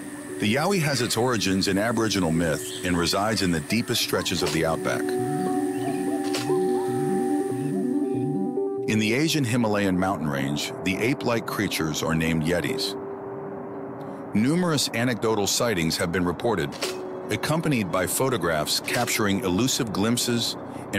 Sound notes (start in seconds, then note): 6.5 ominous music; 6.5 slides clicking